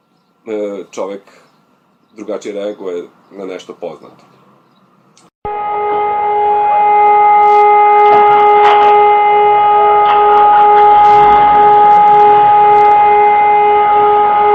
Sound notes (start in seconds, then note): 5.4 sound of "All clear" siren